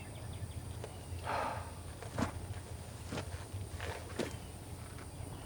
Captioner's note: Anderson sighing